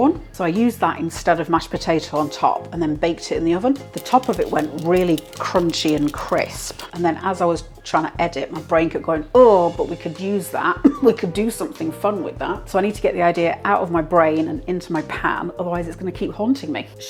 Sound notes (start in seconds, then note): 3.9 crispy tapping